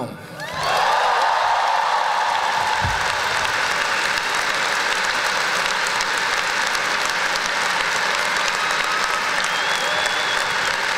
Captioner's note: applause